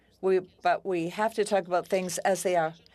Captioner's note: speaking French